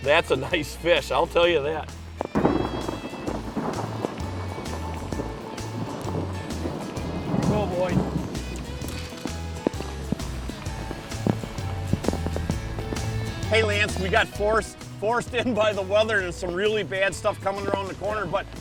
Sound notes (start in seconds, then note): 2.2 crashing thunder